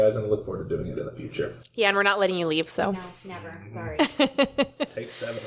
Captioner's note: laughter